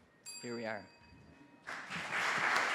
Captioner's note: bell dings; applause